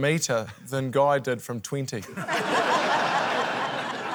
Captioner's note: laughter